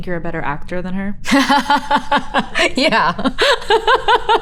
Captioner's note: Elizabeth laughs